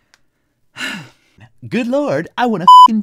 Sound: sad sigh

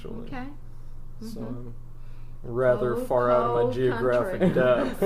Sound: laugh

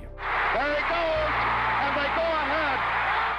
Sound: crowd cheering

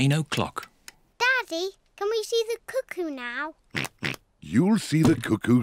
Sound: oinks

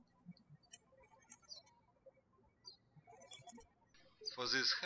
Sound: birds chirping

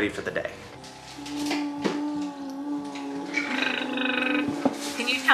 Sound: babbling

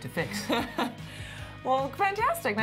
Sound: laughs

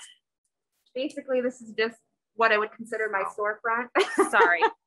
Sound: laughs

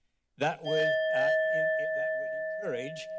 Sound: bell chimes

